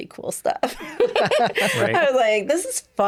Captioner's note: both laughing